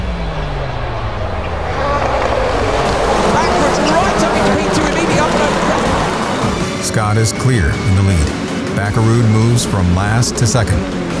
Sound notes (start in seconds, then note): 3.5 commentators chattering